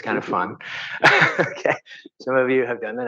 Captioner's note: laughs